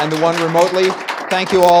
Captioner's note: applause